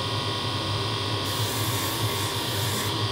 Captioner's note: high grinding noise